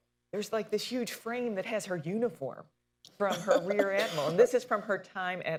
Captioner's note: laughter